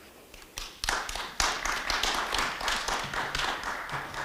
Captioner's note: audience clapping